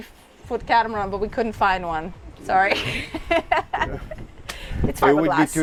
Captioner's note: laughs